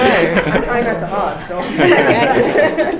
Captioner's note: laugh